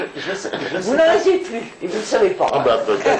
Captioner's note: laughs